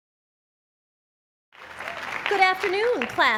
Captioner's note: applause